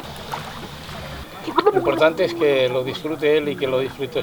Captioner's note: bubble sounds